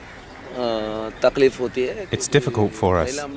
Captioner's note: non-english speech